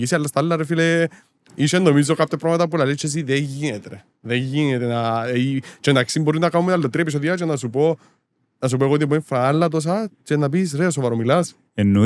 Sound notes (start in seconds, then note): none